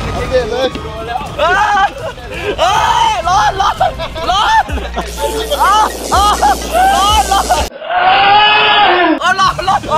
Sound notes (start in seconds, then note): 2.6 screams; 4.6 laughs; 7.7 screams